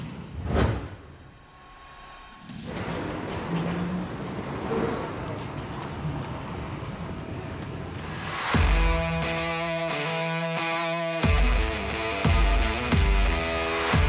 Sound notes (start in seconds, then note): 2.5 airport interior sounds; 8.5 energetic rock music